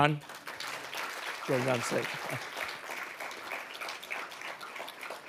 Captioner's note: audience applauding